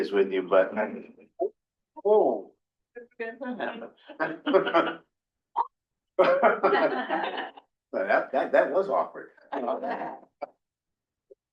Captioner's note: laughter